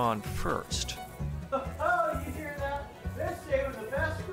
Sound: crowd noises

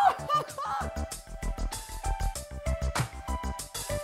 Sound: laughing

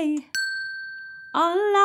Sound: bell dings

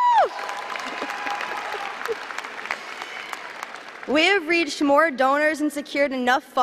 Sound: chuckles

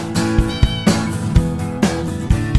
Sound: Curtis meows

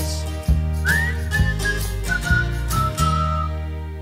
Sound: whistling

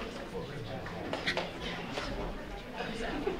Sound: murmuring

